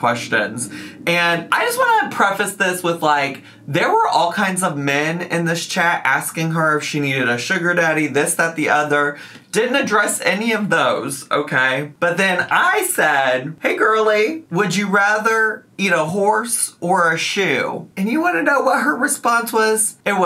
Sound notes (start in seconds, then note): none